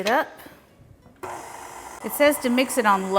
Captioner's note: mixer whirring